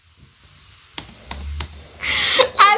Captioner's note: aggressive keyboard noises